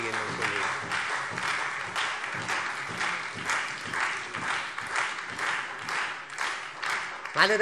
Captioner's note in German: Beifall SPD und Freie Demokraten